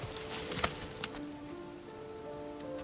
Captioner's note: light thud; tranquil music